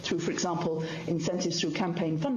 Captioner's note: speaking in french